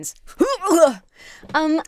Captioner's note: shudders